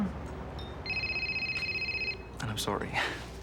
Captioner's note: phone ringing